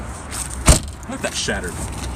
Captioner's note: door slams